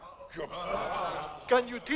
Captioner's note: chieftains murmuring